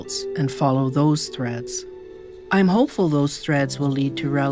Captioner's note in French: none